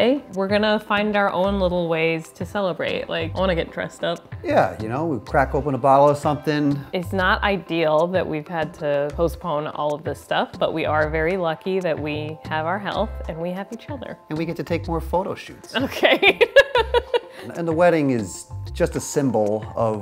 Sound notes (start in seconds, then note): 15.8 laughs